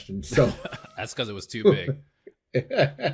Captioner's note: laughs